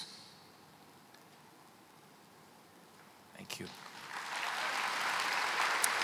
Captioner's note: applause